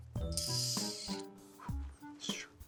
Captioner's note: making a whistling noise; making a panting noise